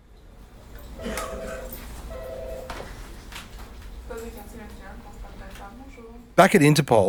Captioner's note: phone noises